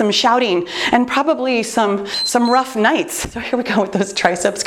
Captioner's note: timer beeps